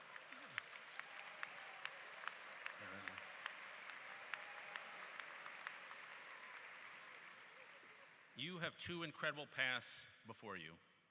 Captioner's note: applause